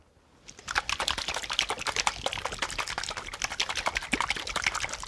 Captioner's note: liquid sloshing